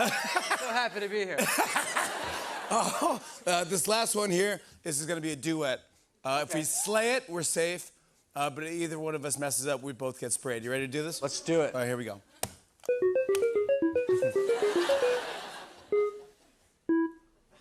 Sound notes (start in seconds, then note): 0.0 laughter; 12.9 beeping; 14.6 laughter